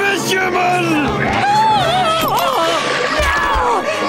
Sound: screaming

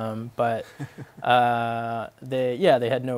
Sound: laughs

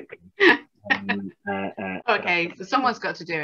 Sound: laughs

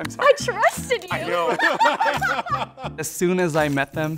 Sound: participants laugh

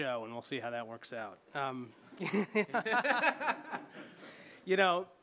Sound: laughs

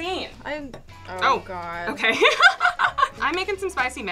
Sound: laughing

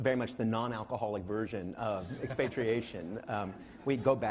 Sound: laughing

